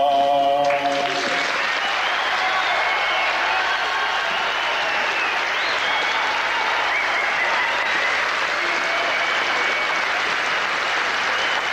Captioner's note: applause